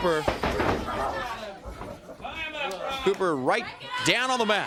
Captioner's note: crowd chatter